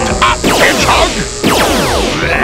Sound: blam

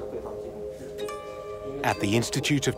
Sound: speaking Uyghur

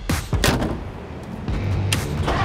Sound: door slam; engine revving

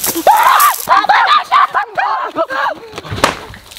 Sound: screaming

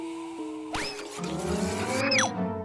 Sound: blender whirring

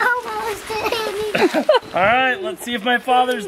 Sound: laughing

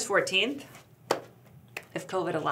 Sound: hands clap

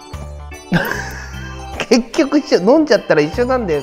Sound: laughs

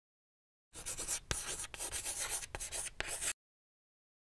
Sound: chalk scratching

